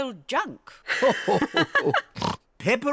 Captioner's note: grandpa and granny laugh